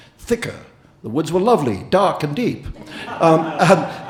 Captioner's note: audience laughing